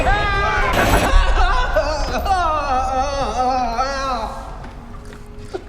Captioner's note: yelling